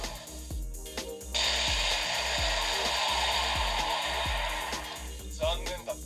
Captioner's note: explosion